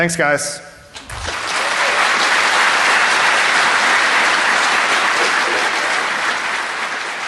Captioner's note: applause